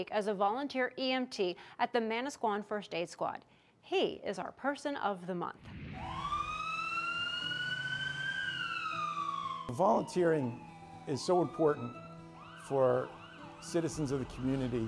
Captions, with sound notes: as a volunteer EMT at the Manasquan First Aid Squad. He is our person of the month. (siren whooping) Volunteering is so important for citizens of the community